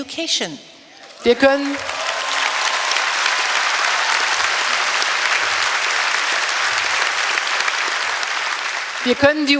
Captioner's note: applause; speaking in German